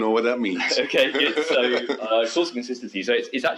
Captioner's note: laughs